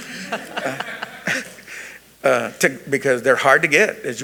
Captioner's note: attendees laughing